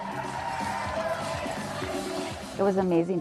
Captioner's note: crowd cheering; upbeat music